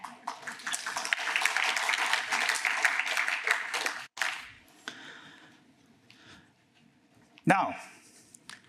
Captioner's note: applause